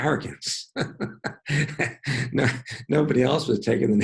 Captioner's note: laughing